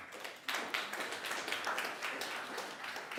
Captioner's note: applause